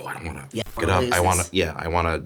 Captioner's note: static buzzing